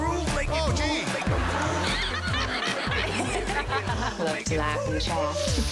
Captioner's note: laughter